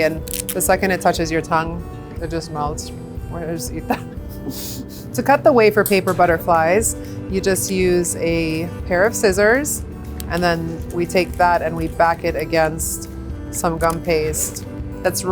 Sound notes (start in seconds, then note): 3.9 laughs